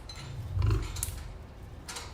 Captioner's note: lion growl